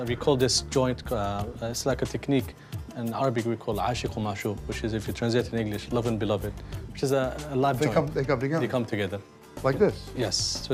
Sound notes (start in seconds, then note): 3.8 speaking Arabic